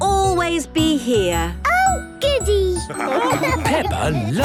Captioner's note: laughing